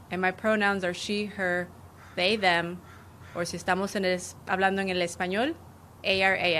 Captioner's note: speaking spanish; speaking spanish